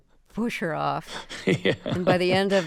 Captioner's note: laughter